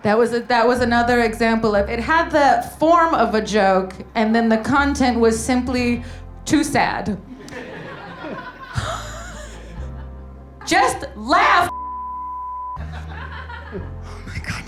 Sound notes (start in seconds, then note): 7.3 gasps; 7.3 audience laughing; 11.7 beep; 12.8 audience laughing